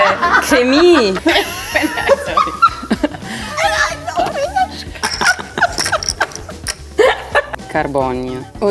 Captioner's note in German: Lachen